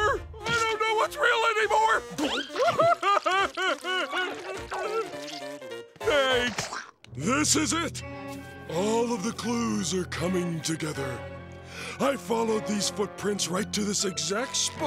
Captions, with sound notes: I don't know what's real anymore! [crying] Thanks. This is it. All of the clues are coming together. I followed these footprints right to this exact spot,